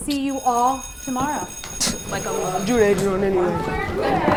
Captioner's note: bell rings; crowd ramblings